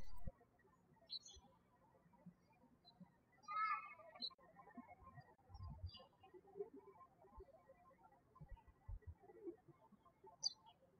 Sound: birds chirping

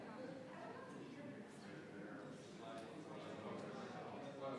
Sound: members chattering

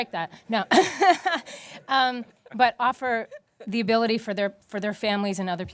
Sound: laughter

